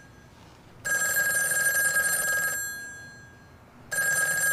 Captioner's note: phone continues ringing